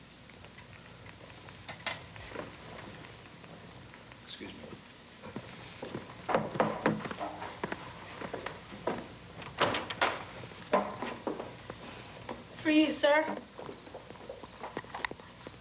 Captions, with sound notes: EXCUSE ME. [KNOCK KNOCK KNOCK] FOR YOU, SIR.